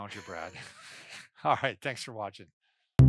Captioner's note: laughing